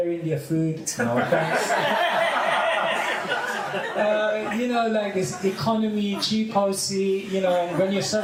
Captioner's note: laugher